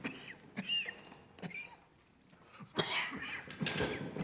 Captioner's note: Räuspern